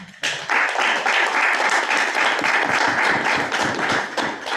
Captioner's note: group clapping